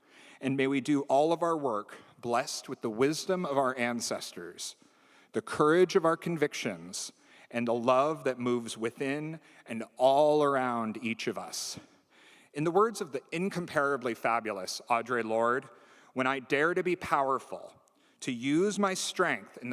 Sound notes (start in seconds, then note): none